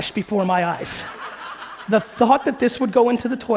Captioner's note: audience laughing